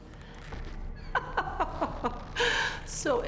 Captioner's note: chuckles